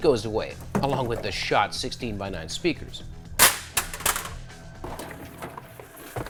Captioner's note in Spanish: sonido metálico seco